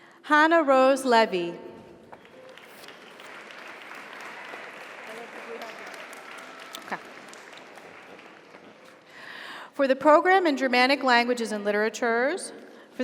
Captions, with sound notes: Hannah Rose Levy. (audience applauds) (audience cheers) For the Program in Germanic Languages and Literatures